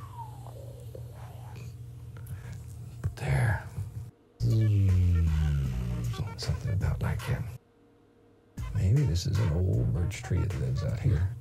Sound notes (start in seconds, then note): 0.3 swooshing sound; 4.6 zooming sound